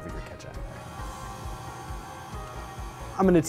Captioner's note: mixer whirring